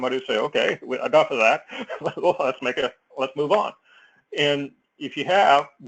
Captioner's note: laugh